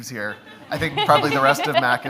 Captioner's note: audience laughs